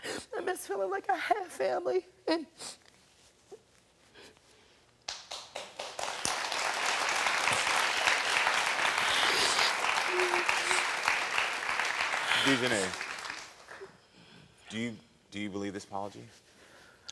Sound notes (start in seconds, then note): 5.0 audience clapping